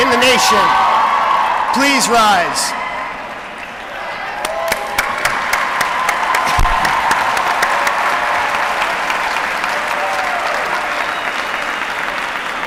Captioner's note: applause